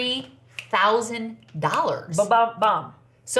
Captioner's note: fingers snap